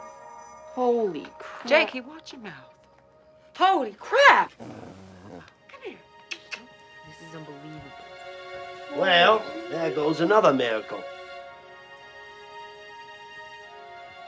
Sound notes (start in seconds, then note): 4.4 Stump growling softly; 6.2 kissing sounds; 11.9 soft music